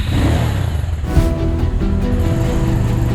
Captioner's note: engine starts again